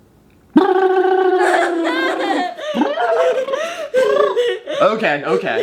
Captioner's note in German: macht komische Geräusche